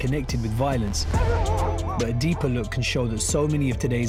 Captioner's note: barking